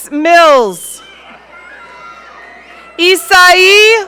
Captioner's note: audience cheering